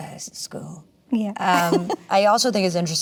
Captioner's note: laughs